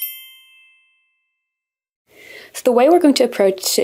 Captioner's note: soft chimes